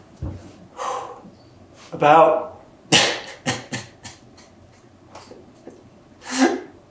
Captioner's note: breathes out; bursts out crying